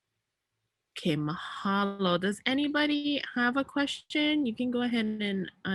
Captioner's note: speaks in native language